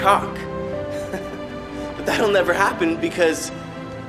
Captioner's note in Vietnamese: cười; cười